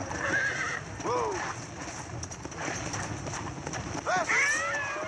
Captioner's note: sounds of trotting horse; sounds of jumping horse; screams of zombie